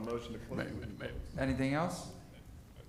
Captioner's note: laughter